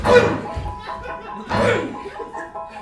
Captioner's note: bonk